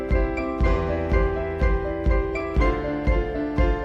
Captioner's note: none